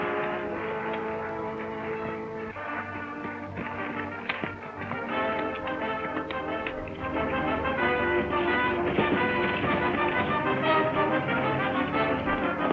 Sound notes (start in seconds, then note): 4.3 horse galloping; 8.2 dramatic orchestral music